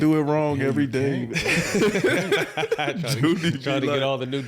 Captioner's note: laughing